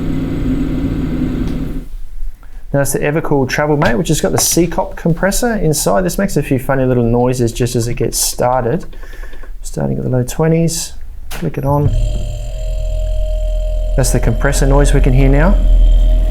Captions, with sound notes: That's the Evakool Travelmate which has got the C COP compressor inside. This makes a few funny little noises just as it gets started. Starting in the low 20's. Flick it on. (compressor buzzing) That's the compressor noise we can hear now.